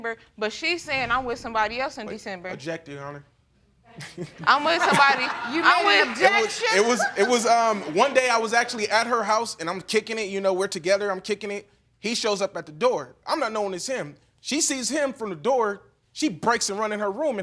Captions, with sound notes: but she's saying I'm with somebody else in December. I object, Your Honor. (LAUGHTER) I'm with somebody... You made an objection? It was... One day, I was actually at her house and I'm kickin' it, you know, we're together, I'm kickin' it, he shows up at the door. I'm not knowing it's him. She sees him from the door, she breaks and runs in her room